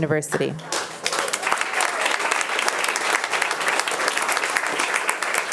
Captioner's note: attendees applauding